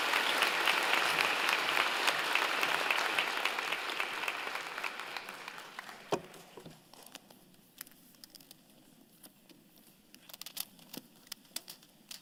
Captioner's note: applause